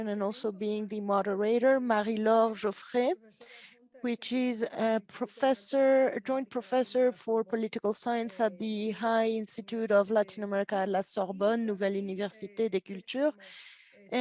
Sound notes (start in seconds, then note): 11.9 speaks in French